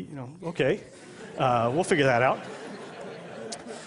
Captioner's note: laughter